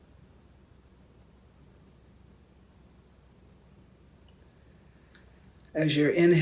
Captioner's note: silence